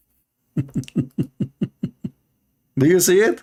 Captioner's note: Ketawa